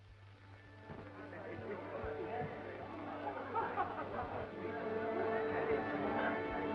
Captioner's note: gentle music; attendees chattering